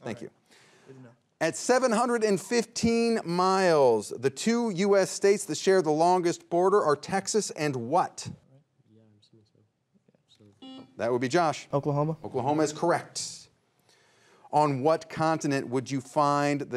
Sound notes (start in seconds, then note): 9.2 faintly speaking